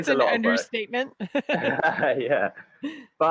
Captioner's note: laughs